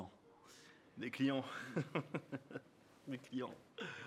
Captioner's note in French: rires